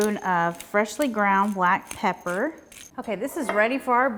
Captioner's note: pepper mill grinding